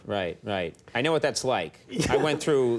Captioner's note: laughs